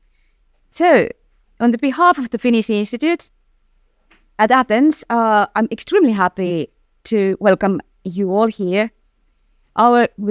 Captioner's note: in English